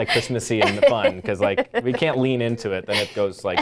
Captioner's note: laughing